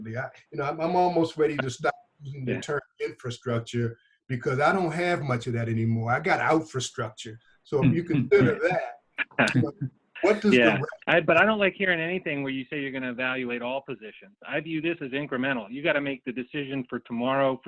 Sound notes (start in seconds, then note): 7.8 all laughing